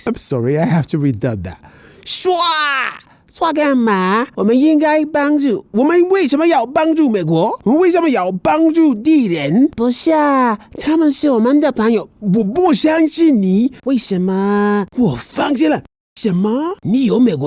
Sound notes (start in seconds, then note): 2.2 speaking Mandarin; 6.1 speaking more Mandarin